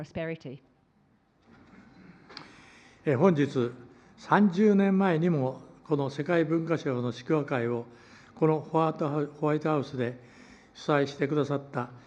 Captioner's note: foreign language